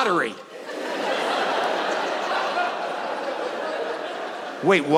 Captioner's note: audience laughing